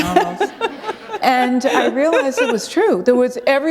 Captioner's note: laughter